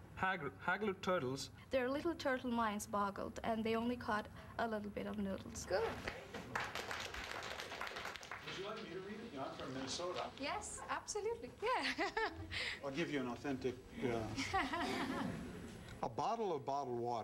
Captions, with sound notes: "THEIR LITTLE TURTLE MINDS BOGGLED, AND THEY ONLY CAUGHT A LITTLE BIT OF NOODLES." GOOD. [ APPLAUSE ] WOULD YOU LIKE ME TO READ IT? I'M FROM MINNESOTA. YES, ABSOLUTELY. YEAH. [ CHUCKLES ] I'LL GIVE YOU AN AUTHENTIC, UH... "A BOTTLE OF BOTTLED WATER HELD 30 LITTLE TURTLES.